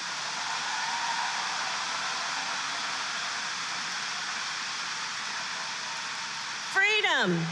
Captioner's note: applause